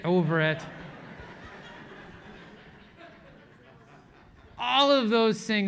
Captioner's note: laugh